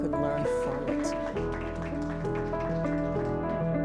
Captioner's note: applause; gentle piano music